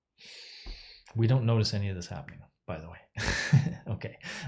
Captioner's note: laughs